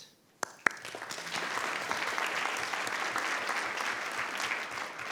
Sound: board and audience applauding

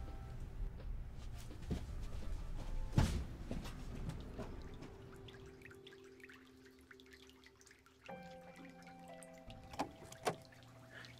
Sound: sound of relaxing fountain

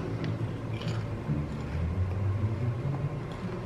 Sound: crunching noise

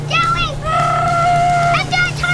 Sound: mom shouting; screeching

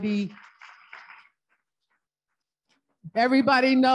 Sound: audience applauding

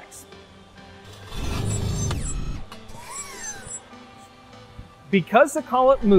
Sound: metal clinking, whirring

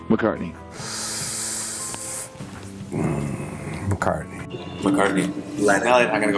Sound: inhales loudly

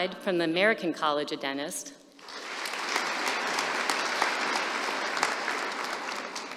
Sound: applause

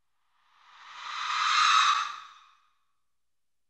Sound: ghostly shriek

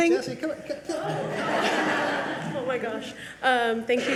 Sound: audience laugh

